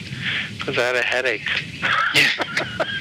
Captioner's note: laughs